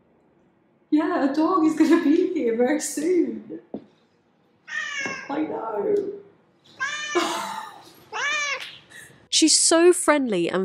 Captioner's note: meow! Meow!